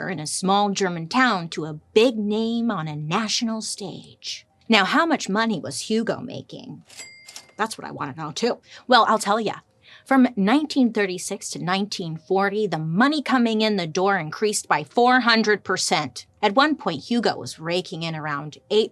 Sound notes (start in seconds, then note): 6.8 cash register dings